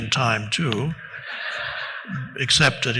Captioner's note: audience laughing